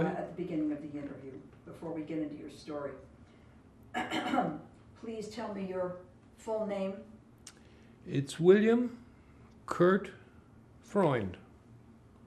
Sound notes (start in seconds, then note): 3.9 clears throat